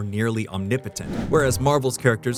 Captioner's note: whoosh